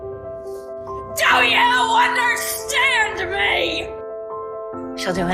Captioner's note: shouting; voiceover